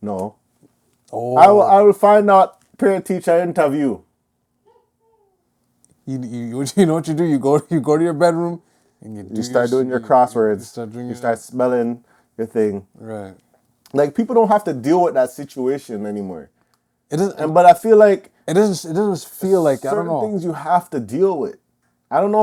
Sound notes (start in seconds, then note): 4.7 distance laugh